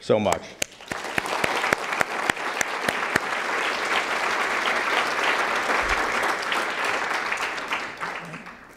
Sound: applause

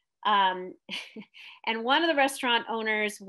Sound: chuckles

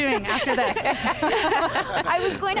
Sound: laughter

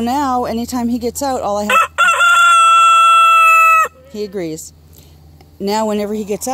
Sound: rooster crowing - he agrees

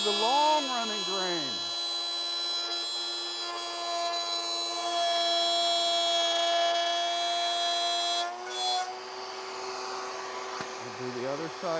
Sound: saw revving

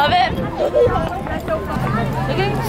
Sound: laughing

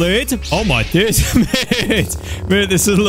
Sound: laughs

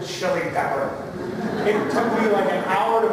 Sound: laughter

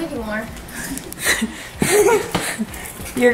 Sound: both giggling

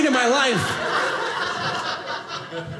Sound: audience laughing

